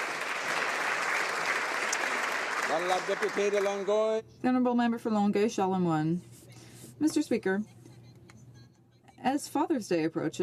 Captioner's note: some Applause